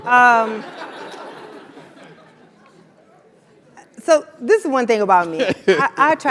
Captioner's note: laugh